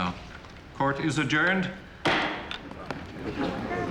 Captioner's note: gavel bangs